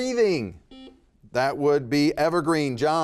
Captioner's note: buzzer beeping